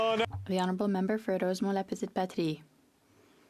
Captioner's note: some Applause